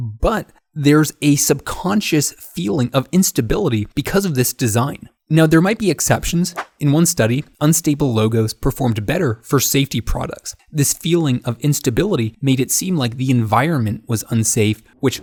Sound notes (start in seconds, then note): 6.5 picture swooshes in